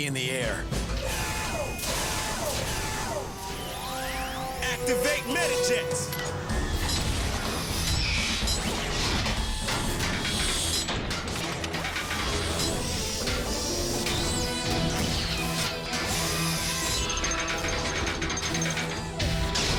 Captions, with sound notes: HOW FAST CAN YOU BE IN THE AIR? (MECHANICAL WHIR) (POWER WHIRS) ACTIVATE METAJETS! (METALLIC THUDDING, GRINDING AND CLANKING AS JETS TRANSFORM)